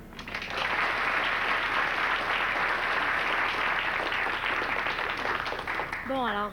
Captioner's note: Applaudissements